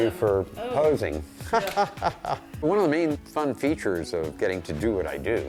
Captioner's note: laughs